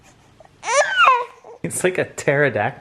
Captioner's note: shrieks